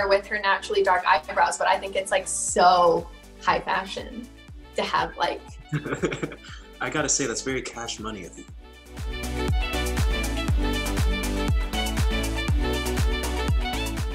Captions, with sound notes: with her naturally dark eyebrows but I think it's like so high fashion to have, like. (Quincy laughing) - I gotta say that's very cash money of you. (upbeat music)